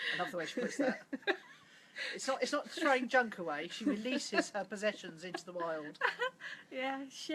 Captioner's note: laughs